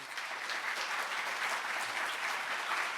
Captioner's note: applause